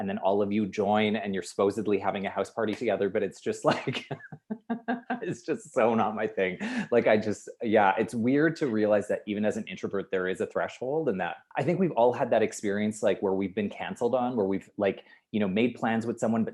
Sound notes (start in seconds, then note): 3.6 laughs loudly